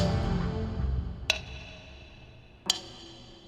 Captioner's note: clock ticking